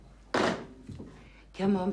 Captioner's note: phone bangs